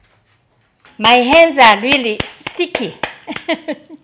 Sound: laughs

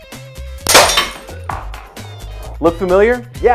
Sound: glass breaking

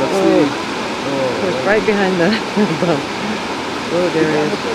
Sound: laughs

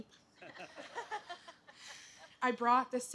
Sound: laughter

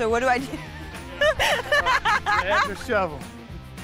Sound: laughing

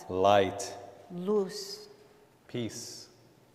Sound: speaking in Spanish

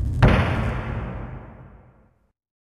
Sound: object slams

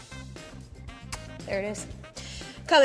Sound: lips kissing

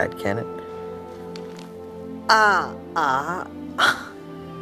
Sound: cracking of neck; groan of pain

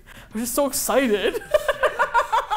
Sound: laughs

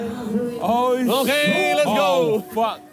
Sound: yelling

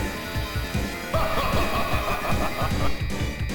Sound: Magneto laughs

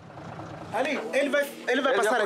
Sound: Portuguese spoken audio

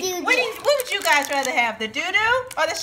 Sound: voiceover

